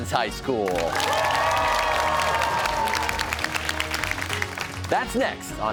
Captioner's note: cheers and applause